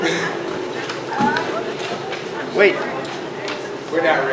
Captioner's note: chuckles